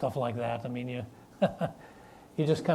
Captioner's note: laughs